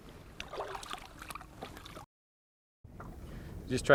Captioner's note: water splashing